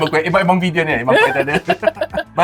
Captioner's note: laughs